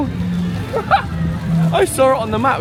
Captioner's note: laughing